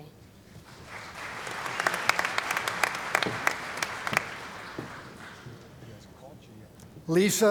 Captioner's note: applause